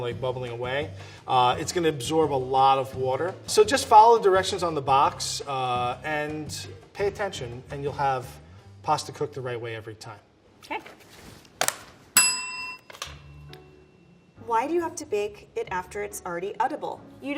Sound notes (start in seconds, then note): 12.2 bell ringing